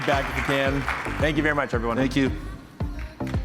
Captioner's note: applause